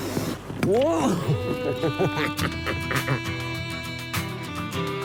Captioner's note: laughs